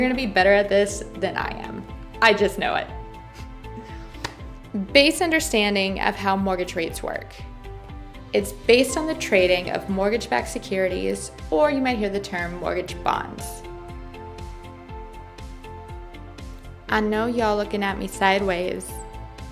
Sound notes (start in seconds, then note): 4.1 clap